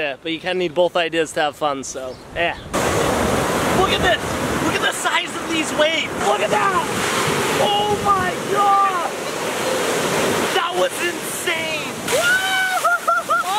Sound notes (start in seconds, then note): 2.8 waves crashing; 12.1 screaming